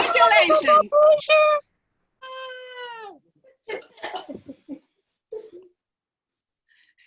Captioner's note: cheering